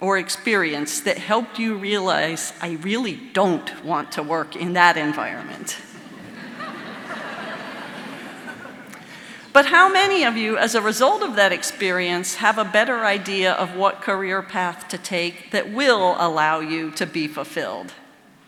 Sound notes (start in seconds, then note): 5.9 audience laughing